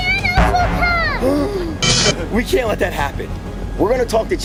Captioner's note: gasps